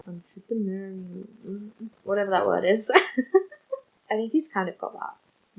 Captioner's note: laughs